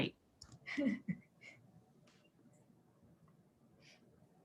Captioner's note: laughs